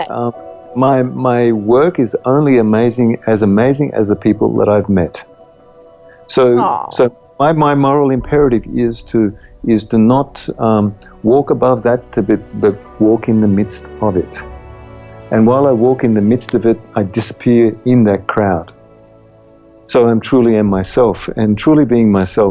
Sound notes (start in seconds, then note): 6.2 aww